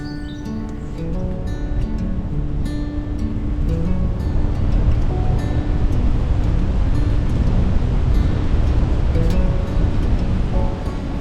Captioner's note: wind gusting